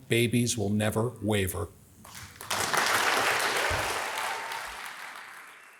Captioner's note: audience applauds